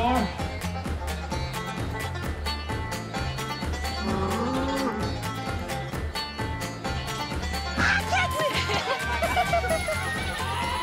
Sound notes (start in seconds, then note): 3.9 bull growling; 8.2 everyone laughing